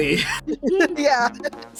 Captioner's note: laughing